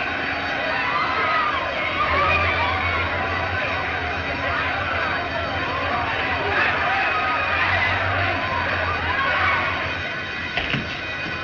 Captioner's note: clamoring